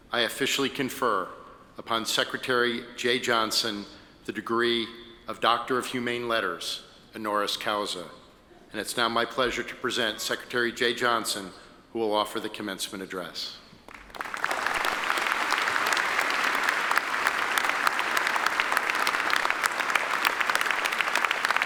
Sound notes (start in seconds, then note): 13.9 attendees applaud